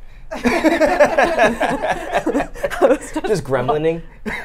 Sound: laughs

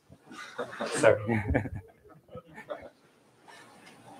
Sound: laughter

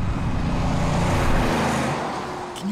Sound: car runs

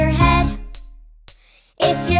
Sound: soft clinking

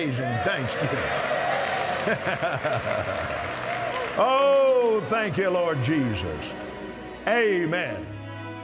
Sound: cheers & Applause

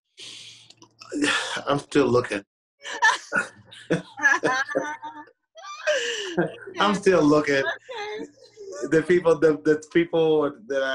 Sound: laughter

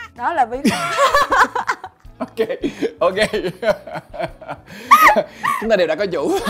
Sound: laugh

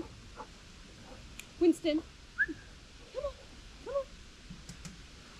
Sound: whistle

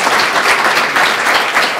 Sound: applause

